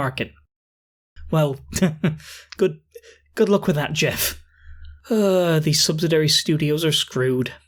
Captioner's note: chortle; sigh